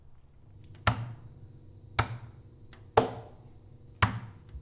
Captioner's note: thudding